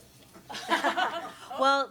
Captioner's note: panelists laugh